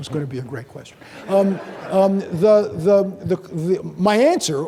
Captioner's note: audience laughing